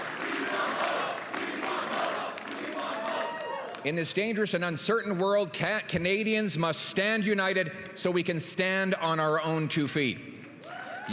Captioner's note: applause and cheering; crowd chanting